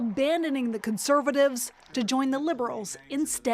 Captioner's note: applause